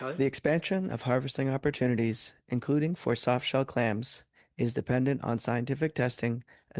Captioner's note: speaking French